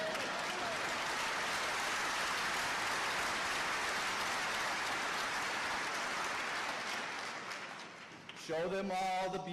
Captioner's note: applause